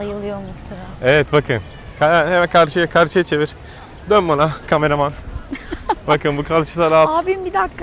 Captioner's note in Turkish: kahkaha